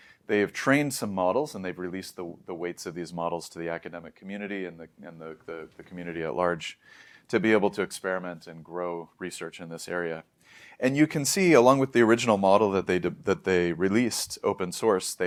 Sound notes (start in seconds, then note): 0.0 inhales; 6.8 inhales; 10.4 inhales